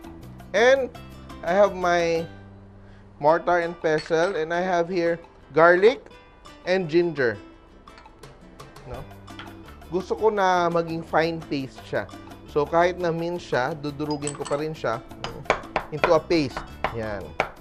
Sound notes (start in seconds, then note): 4.0 clang; 14.1 clang